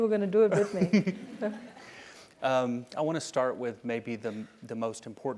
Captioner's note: laugh